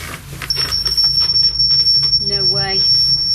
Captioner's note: beeping